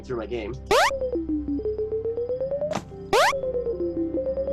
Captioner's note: switch beeping